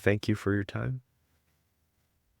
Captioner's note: saying a prayer